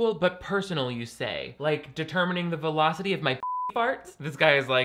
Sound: beep

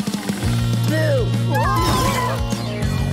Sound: screaming

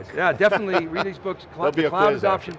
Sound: laughs

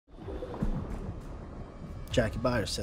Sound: water gurgling

